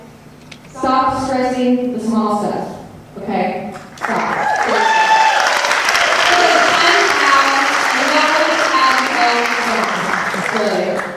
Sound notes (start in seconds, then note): 4.0 audience cheers